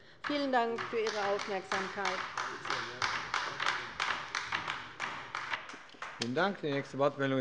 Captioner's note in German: Beifall bei der LINKEN